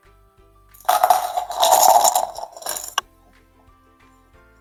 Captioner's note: counters rattling